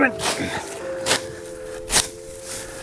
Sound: whack

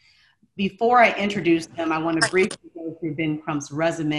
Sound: audio glitch

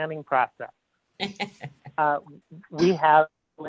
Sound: laughing

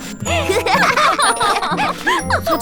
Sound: both laugh

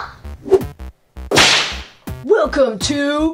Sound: whip cracking

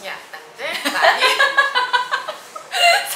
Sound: laughing

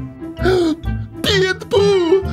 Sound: gasps

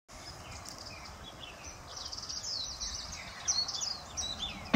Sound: birds chirping

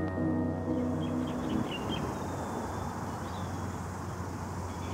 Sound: birds chirping

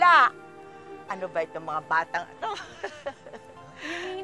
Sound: laughs

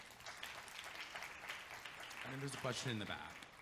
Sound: audience clapping

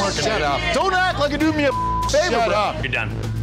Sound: beep

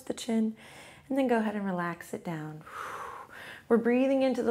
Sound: exhales

